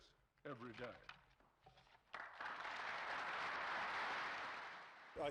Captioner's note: applause